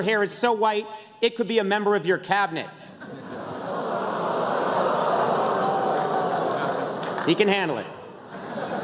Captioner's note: crowd oohs; laughter